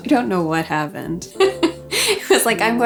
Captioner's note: laughs